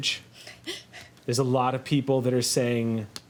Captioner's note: laughs